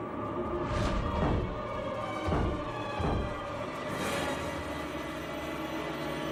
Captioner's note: pounding against the door